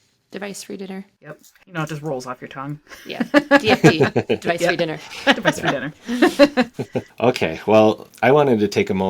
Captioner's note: laughter